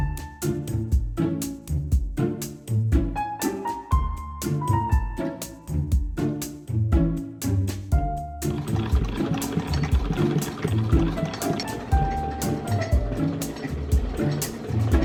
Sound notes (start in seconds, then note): 0.1 upbeat orchestral music; 9.2 whirring